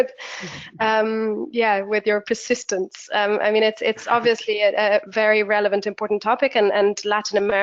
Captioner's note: laughs